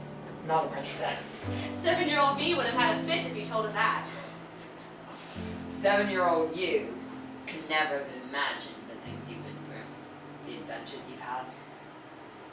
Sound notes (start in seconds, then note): none